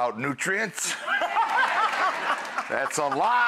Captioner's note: audience laughing